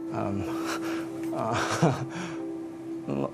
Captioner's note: laughter